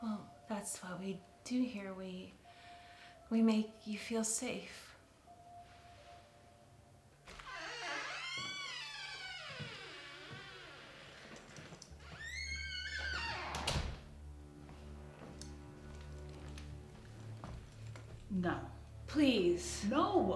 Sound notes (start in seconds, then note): 7.2 door creaks; 12.8 foreboding music